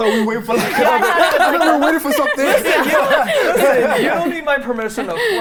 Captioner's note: laughing